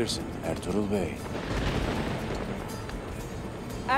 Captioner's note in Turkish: Gök gürültüsü efekti